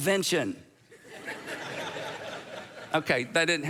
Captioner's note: audience laughs